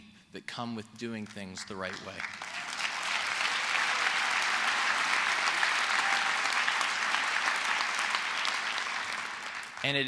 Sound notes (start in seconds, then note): 3.0 applause